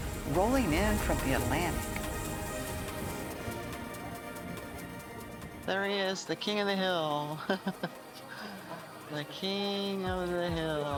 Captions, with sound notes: rolling in from the Atlantic. There he is, the king of the hill. [ Chuckles ] The king of the hill.